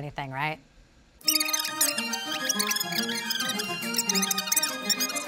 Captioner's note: sped up speech